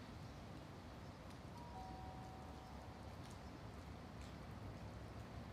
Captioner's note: doorbell rings faintly